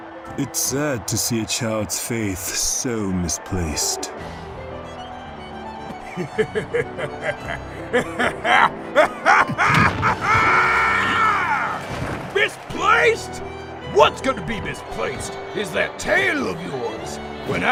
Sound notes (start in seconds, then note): 5.9 chuckling; 8.9 jovial laughter